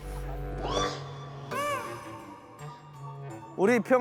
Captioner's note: sigh